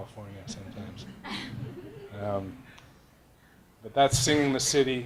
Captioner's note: laughing